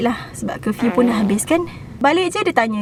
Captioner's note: fart sounds